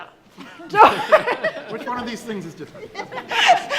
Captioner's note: panel giggling